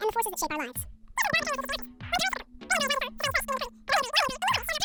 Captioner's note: high-pitched fast words; higher, faster, incomprehensible